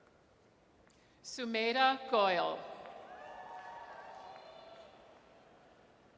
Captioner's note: audience cheers